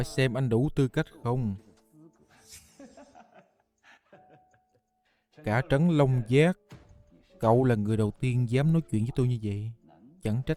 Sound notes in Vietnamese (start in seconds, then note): 2.4 tiếng cười